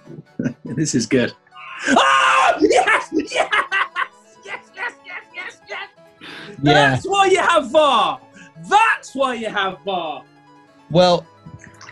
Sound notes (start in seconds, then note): 1.6 cheering; 2.4 chuckling